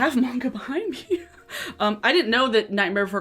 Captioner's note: laughs